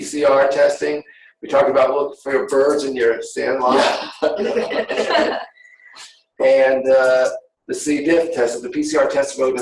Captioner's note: laughter